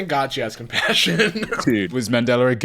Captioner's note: laughing